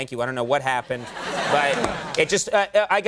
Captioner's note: audience laughing